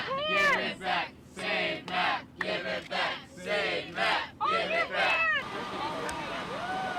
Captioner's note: group cheering